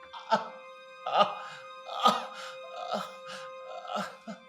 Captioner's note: Terrance groans in pain